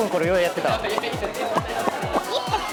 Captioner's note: popping